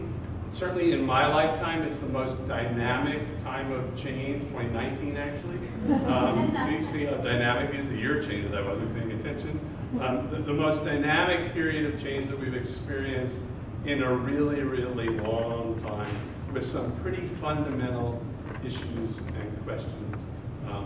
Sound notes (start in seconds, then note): 5.7 audience laughs